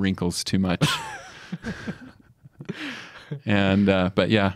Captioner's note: both laugh